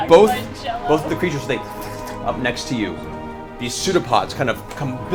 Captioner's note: oozing sound